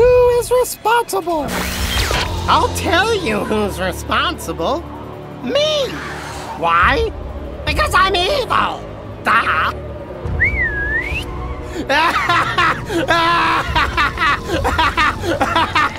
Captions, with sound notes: But who is responsible? - I'll tell you who's responsible. Me. Why? Because I'm evil. Duh. (whistling) (cackling)